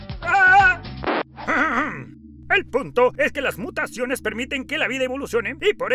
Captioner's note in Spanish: ríe; aclara su garganta